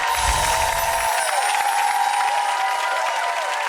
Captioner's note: cheering; applause